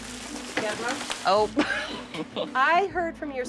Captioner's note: laughs